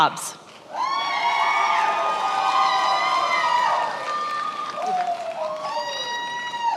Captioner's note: attendees applauding and cheering